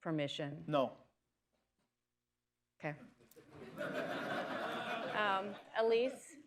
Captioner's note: laughter